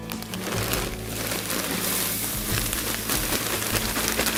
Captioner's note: low rustling